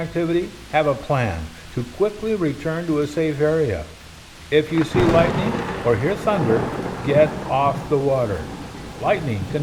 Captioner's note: thunder